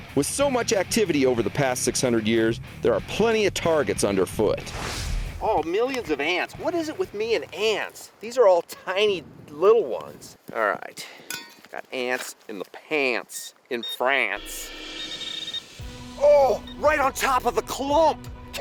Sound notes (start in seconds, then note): 13.7 beeping; 14.4 dramatic music